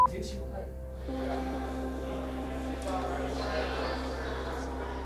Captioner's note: beep